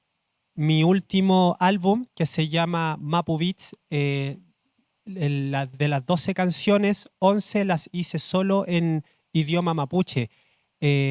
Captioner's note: speaking Spanish